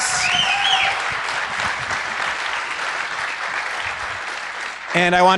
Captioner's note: applause